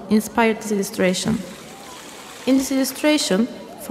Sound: running water

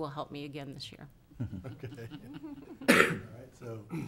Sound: people chuckling

